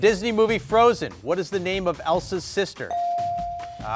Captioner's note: bell dinging